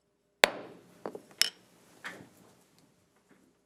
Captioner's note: gavel bangs